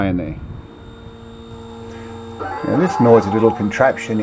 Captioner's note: machine whirring